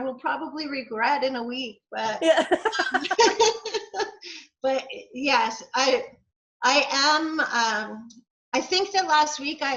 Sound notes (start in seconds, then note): 2.2 laughs